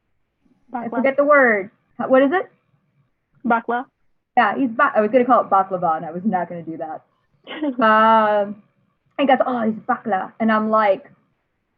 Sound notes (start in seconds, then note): 8.7 laughs